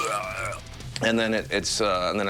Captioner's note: Dethklok groaning in pain and retching